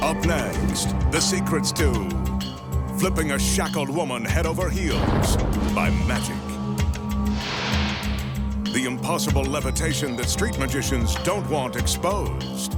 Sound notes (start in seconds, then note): 4.7 smoke puffing; 7.3 light beam swishing